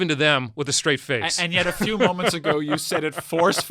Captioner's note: laughs